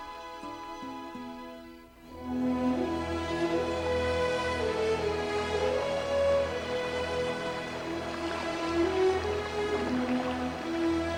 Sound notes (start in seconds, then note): 2.1 sound of rushing water